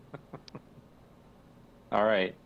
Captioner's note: people chuckle